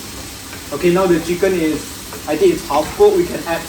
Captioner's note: cooking sound